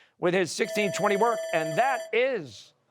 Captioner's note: bell ringing